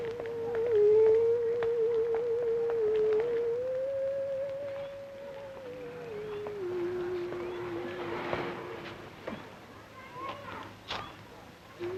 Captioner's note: Gwen humming softly